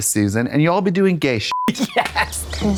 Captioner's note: beep